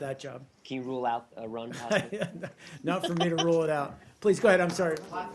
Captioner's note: laughter